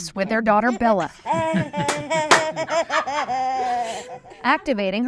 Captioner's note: laughing